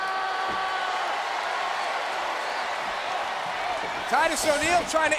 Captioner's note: audience cheering